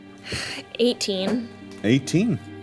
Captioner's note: sighs